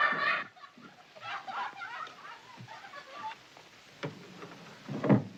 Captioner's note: children's Laughter From Next Door